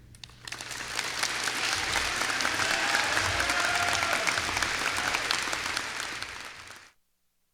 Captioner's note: applause